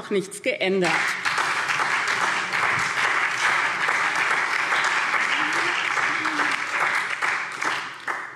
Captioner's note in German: Beifall SPD und DIE LINKE